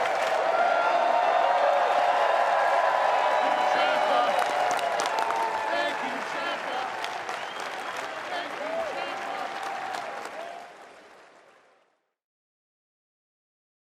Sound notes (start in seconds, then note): 0.0 crowd cheers